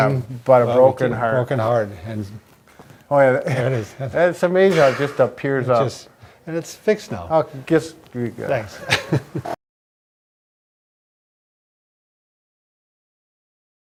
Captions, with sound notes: - But a broken heart. - A broken heart. And... - Oh yeah. - That is. - That's amazing how it just appears up... - And it's fixed now. - Okay, just, do your thing. - Thanks (chuckles)